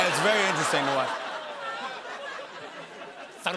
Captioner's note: laughter